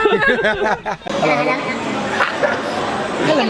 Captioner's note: speaking Thai; voice pitched up